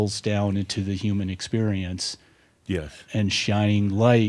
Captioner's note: none